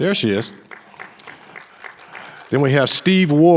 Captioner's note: audience applauding